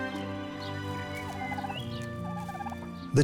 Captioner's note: turkey gobbling